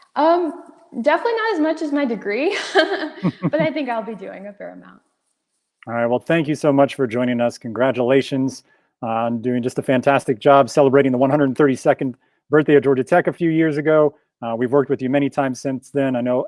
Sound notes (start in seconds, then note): 2.6 chuckles